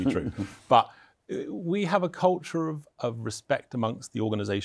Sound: chuckles

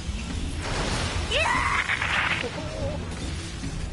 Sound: scream that cuts off

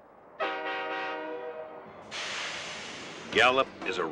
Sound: train whistle blaring

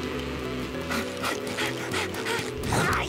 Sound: panting

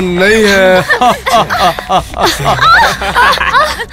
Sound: laughs

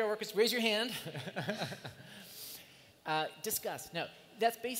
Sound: laughs

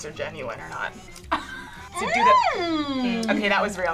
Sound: laughs

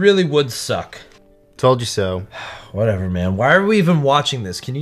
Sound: sighs

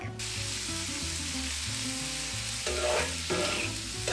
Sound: frying sounds

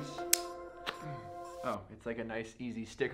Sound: knife blade snaps

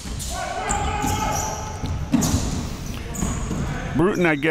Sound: players yelling

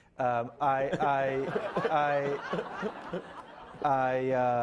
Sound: laughing

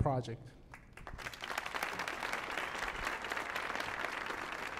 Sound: audience applauding

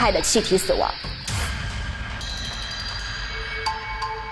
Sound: firedamp explosion

